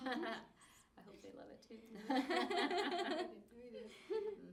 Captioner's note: laughs; laughs